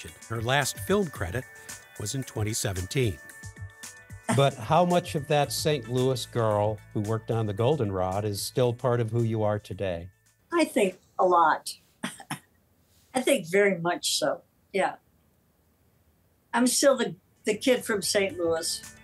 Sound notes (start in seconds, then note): 12.0 Kathleen laughs